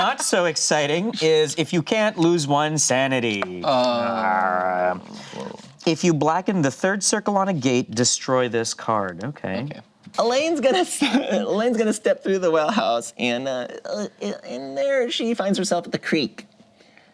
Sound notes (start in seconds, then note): 3.6 grumbles